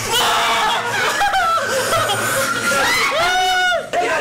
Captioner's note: immediately a satisfied laugh